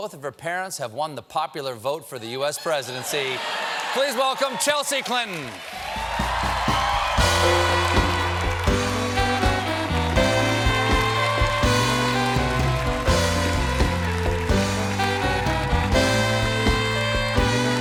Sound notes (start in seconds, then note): 2.7 cheers and applause; 3.3 band playing